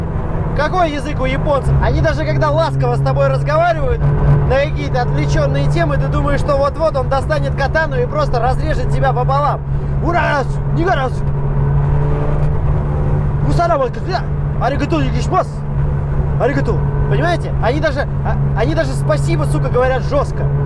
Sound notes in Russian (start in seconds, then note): 9.8 неразборчивый армянско-японский диалект